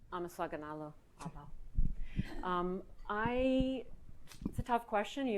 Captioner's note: speaks in foreign language